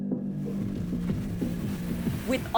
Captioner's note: waves rumbling